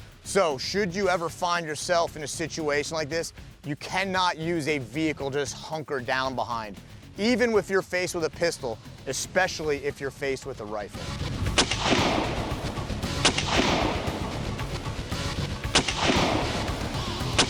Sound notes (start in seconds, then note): 11.4 gun firing